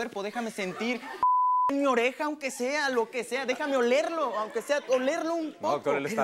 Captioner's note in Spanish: Bip